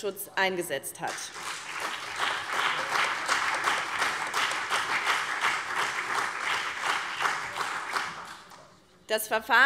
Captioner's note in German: Beifall BÜNDNIS 90/DIE GRÜNEN und vereinzelt CDU